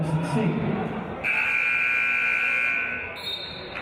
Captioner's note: buzzer; referee's whistle